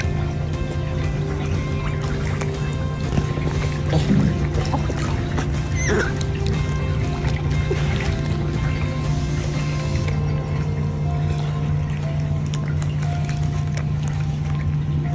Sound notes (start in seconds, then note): 0.2 background music; 0.2 gentle water splashing noise; 5.3 gentle otter squeaks; 5.4 background music; 5.4 gentle water splashing noise; 6.8 background music; 6.8 gentle water splashing noise